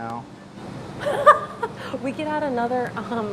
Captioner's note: laughing